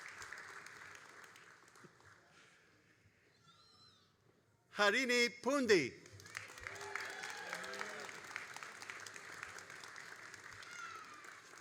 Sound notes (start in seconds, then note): 6.0 all applauding